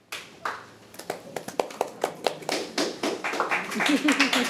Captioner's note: audience applauding